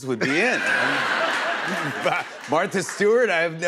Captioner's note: laughter